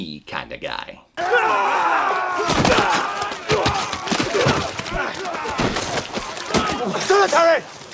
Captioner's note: yelling and jeering, thuds of combat, mud splatters